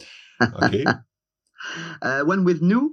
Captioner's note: laughing